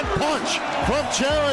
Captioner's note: applause